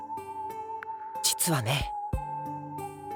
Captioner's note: whisper